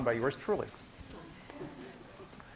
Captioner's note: class laughing